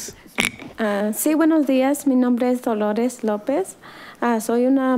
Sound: woman speaking foreign language

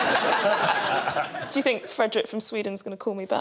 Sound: laughter

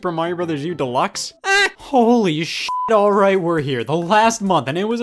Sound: beep

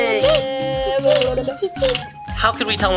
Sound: camera clicking

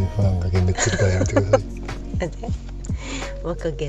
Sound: laughs

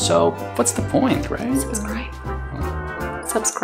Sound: whispers

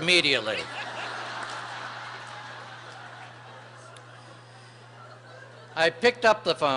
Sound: laughter

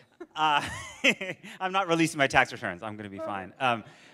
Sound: laughs

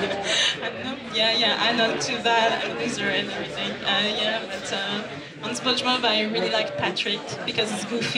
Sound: laugh

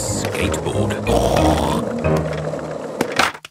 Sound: snorts

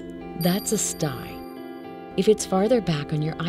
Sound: chime sounding

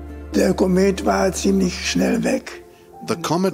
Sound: speaking in German

